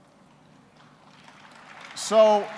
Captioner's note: applause